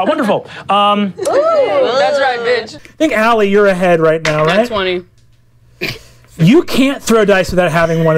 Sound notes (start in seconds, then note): 5.6 snorts